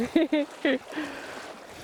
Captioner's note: laughing; water dribbling